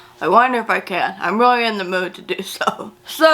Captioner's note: chuckles